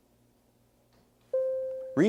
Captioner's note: bell rings